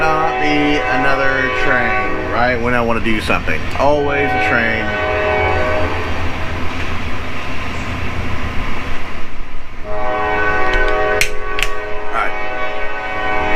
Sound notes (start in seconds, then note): 9.8 train horn intensifies